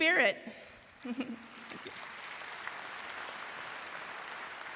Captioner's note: audience applauds